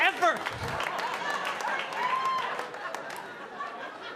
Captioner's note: audience laughing